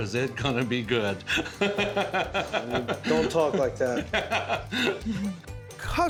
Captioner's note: chuckling